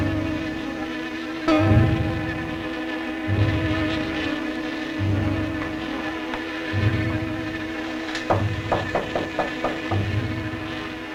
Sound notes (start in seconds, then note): 0.0 buzzing; 0.2 suspenseful music; 8.3 knocking